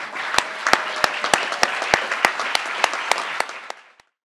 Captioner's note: crowd applauding